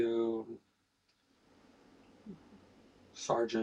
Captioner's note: silence